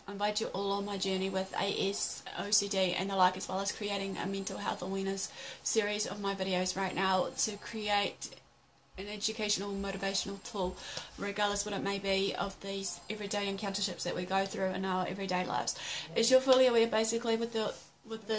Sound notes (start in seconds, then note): 15.7 gasp